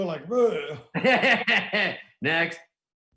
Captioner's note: laughing